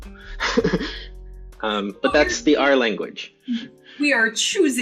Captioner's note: laughs